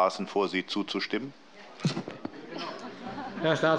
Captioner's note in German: Heiterkeit